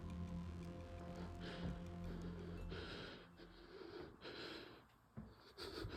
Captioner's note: heavy breathing